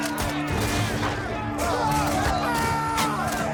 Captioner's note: rapid gun fire